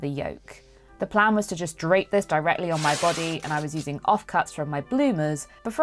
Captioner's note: fabric ripping